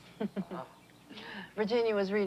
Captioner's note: Lucy laughs